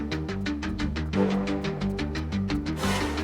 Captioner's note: bom! ♫